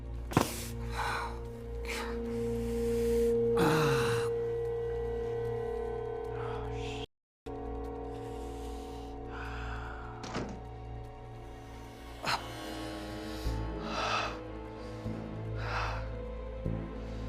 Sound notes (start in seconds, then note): 1.7 gasps; 3.3 groans; 14.0 suspenseful music